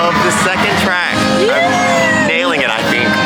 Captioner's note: cheering